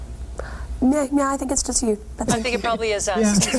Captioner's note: laughing & talking over each other